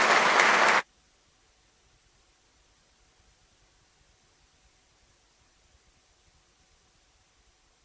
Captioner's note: extra claps